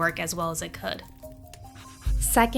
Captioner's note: fire crackling